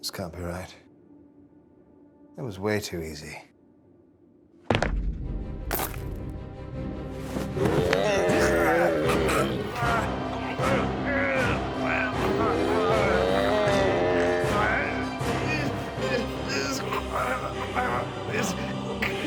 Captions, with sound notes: - This can't be right. It was way too easy. (growls) (grunts)